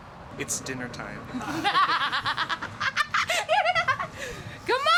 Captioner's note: woman laughing